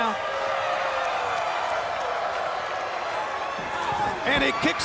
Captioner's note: crowd cheering